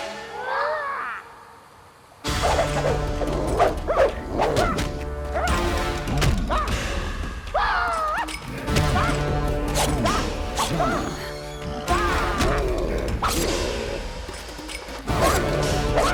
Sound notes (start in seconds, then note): 0.0 Panther yells; 2.4 axe whooshes; 3.9 Panther yells; 8.6 blows thud; 9.7 knife whooshes; 11.0 intense music; 13.2 knife slashes